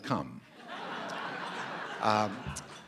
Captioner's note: laughter